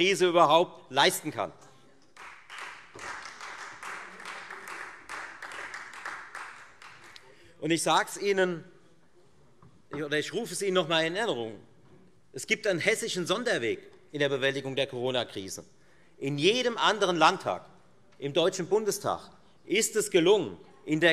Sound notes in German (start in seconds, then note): 2.1 Beifall Freie Demokraten